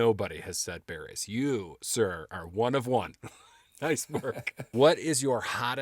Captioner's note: laughing